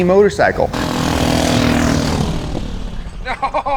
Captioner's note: motorcycle engine revving